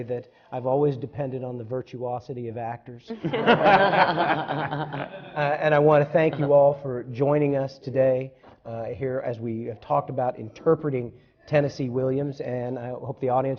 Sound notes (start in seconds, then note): 3.1 laughter